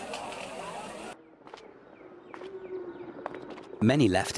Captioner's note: footsteps